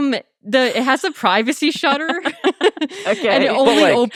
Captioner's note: laughing